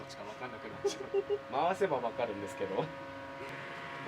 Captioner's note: laughs